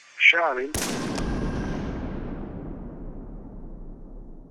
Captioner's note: gun bangs